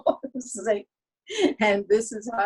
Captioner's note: laughs